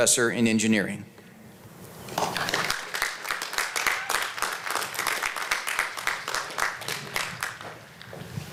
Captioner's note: applause